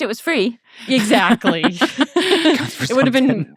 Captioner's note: laughing